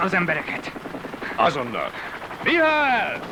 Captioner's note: indistinct chatter